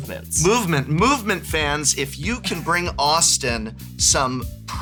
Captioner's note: laughs